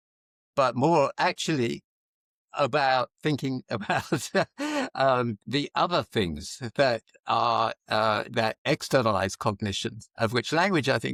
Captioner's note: laughs